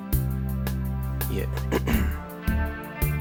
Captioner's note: clears throat